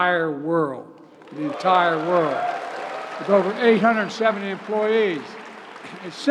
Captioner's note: applause